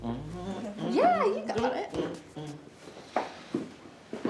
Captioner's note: E.J. humming